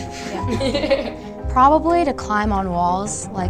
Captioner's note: girls laughing